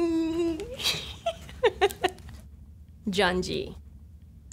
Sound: laughs

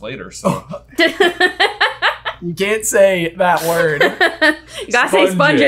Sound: laughing

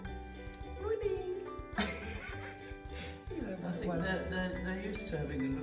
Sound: laughs

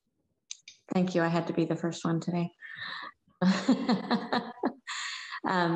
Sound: laughs

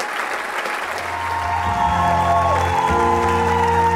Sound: audience cheering; uplifting music

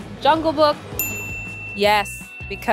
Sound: bell dings

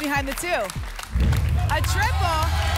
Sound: rumbling sounds

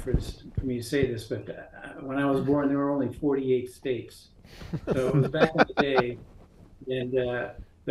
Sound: chuckles

